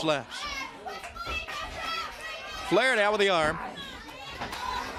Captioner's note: crowd cheering